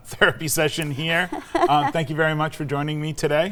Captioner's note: laughs